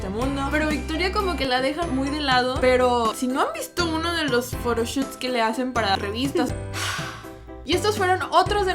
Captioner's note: sigh